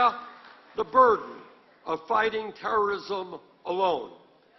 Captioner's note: applause